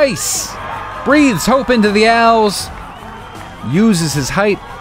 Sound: crowd cheers

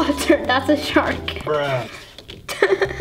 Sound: laughs

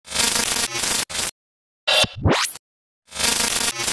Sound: electric sound buzzing

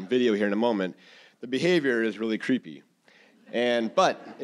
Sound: audience laughing

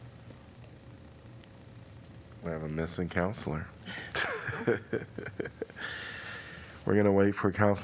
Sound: laughter

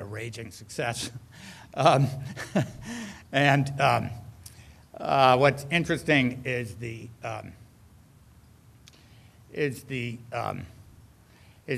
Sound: laughs

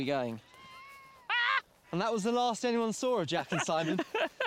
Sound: laughing

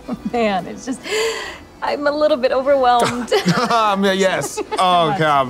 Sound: chuckling

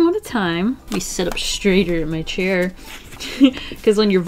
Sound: laughs

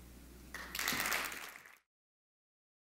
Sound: applause

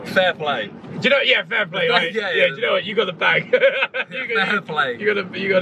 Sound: team laughing and mumbling

